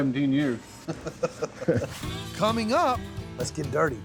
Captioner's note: laughing